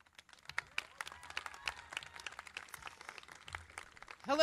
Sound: crowd clapping

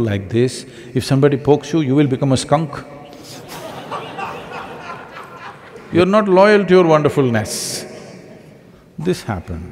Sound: laughter

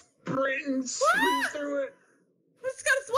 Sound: squeals

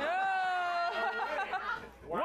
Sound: laughter

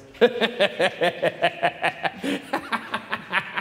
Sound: laughing

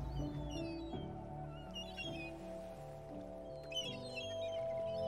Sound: seagulls squawking

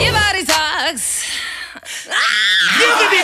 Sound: screams

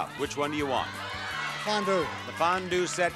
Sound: audience shouting

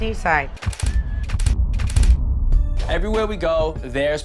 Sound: camera flicking

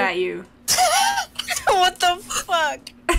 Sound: laughing

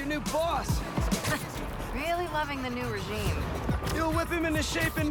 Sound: laugh

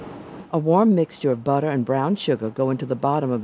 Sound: voiceover

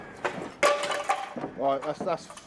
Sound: tile breaks

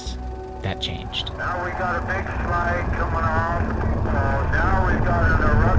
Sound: man On Radio

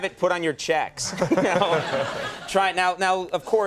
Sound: Conan and the rock chuckling

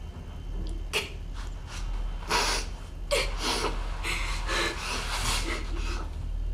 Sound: gasping

